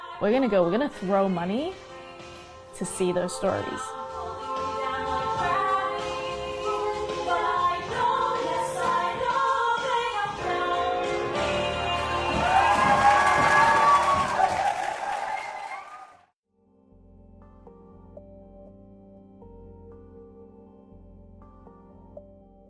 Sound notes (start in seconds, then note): 12.3 applause; 16.6 gentle instrumental music